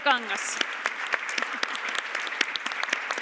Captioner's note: Aplodit